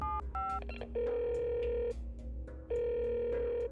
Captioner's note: telephone ringing